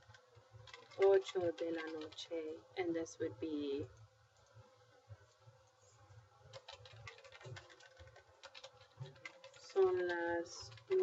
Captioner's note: speaking spanish